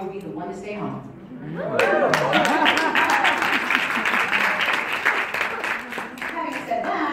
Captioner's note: crowd Cheering & Clapping